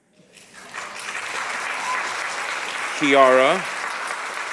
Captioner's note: audience applauding